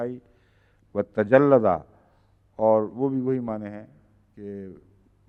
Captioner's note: Arabic